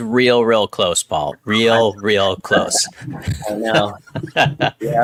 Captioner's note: laughs